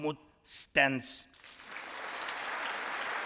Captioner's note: applause